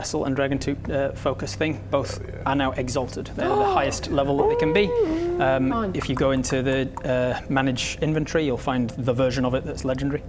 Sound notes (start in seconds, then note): 4.7 gasp!